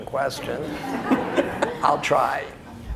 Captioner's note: audience laughs